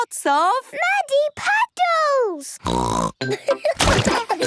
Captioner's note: snorting; laughter